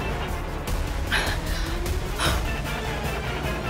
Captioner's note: exhales sharply